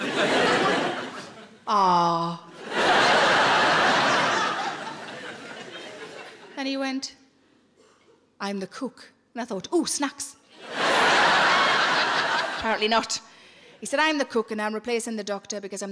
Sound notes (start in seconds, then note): 2.5 audience laughing